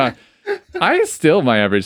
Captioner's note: both laughing